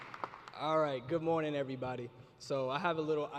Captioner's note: applause